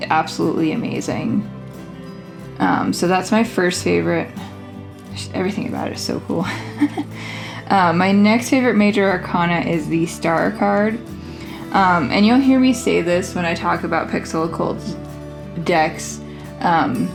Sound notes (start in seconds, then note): 6.4 laughs